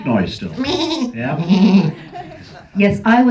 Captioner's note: sheep impersonation